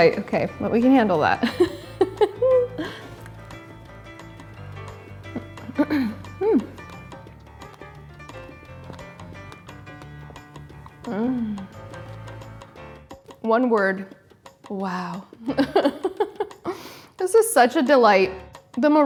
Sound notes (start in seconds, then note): 1.4 chuckles; 15.6 laughs